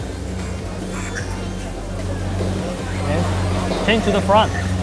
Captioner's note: sucking